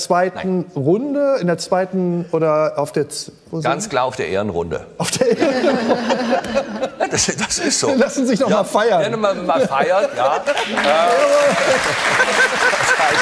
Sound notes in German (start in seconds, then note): 6.0 lachend; 10.4 Applaus